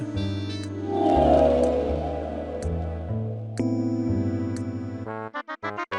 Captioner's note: vanishing noise; silly music